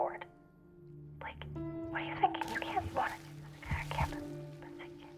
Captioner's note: Isabelle whispering